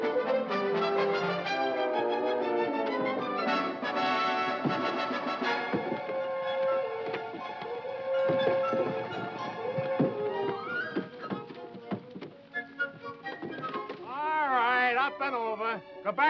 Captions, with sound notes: (triumphant music) (tense music) (wood thudding) All right, up and over!